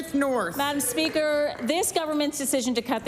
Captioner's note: applause